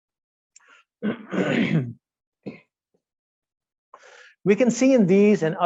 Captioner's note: clearing throat